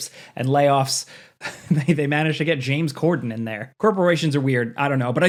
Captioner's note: chuckles